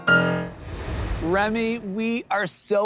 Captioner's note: air whooshes